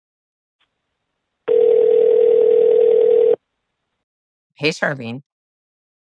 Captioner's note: phone ringing